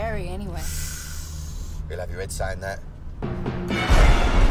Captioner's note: sighs; thunder rumbling